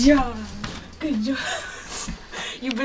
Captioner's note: laughs